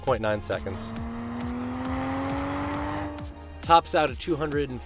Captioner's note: car engine roaring